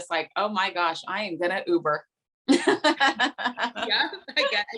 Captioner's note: laughing